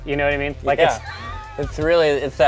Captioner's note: laugh